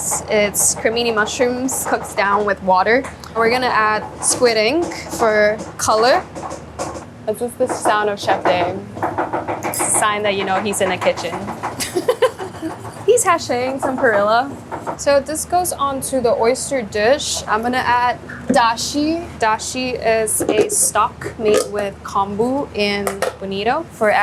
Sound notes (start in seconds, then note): 7.0 loud thumpign; 11.7 laughing